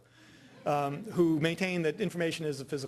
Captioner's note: audience laughing